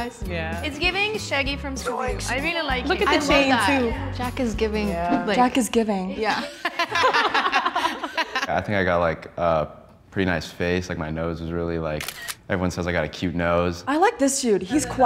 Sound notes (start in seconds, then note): 6.2 women laughing